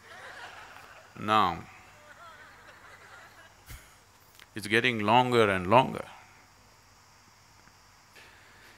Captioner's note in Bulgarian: Жестикулира - Смях; Смее се